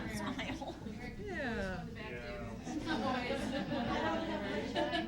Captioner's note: chattering